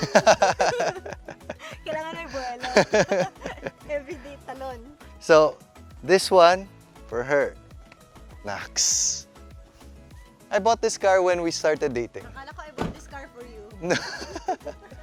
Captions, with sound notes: (laughs) There needs to be momentum. (laughs) Everyday jump. - So this one, for her. Nice. I bought this car when we started dating. - I thought that you bought this car for me. (laughs)